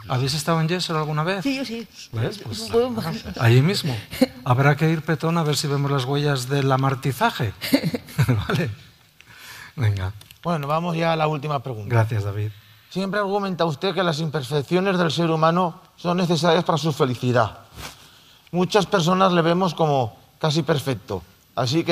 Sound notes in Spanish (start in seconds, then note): 12.2 risas